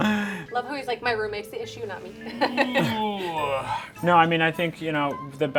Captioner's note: laughing